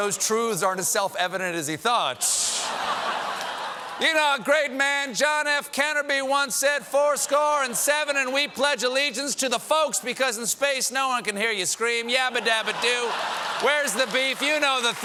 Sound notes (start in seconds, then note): 0.5 laughter